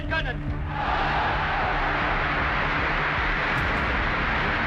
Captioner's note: crowd cheers